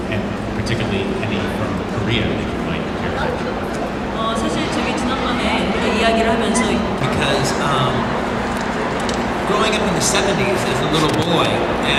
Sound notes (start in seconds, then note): 5.0 speaking Korean